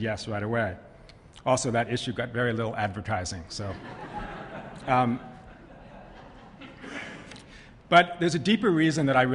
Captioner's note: laughter